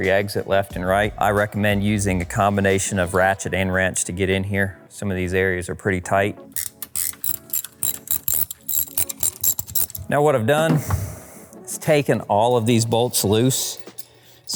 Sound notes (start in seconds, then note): 6.5 ratchet clicks